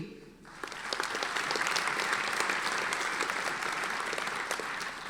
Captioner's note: audience applauding